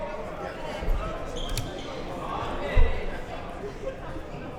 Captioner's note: chattering faintly